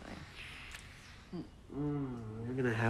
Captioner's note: lips smacking; Paul moans